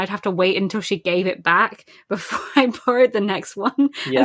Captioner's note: laughing